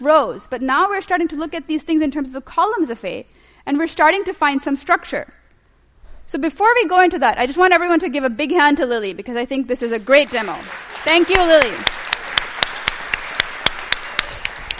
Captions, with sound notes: But now we're starting to look at these things in terms of the columns of a. And we're starting to find some structure. So before we go into that, I just want everyone to give a big hand to Lilly, because I think this is a great demo. Thank you, Lilly. [APPLAUSE]